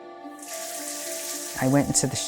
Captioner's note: water pattering